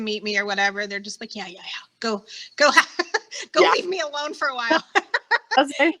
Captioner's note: laughing